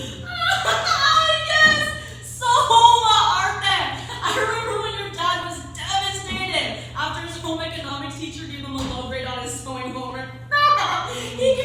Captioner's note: laughing